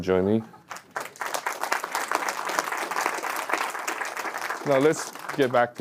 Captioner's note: audience applauding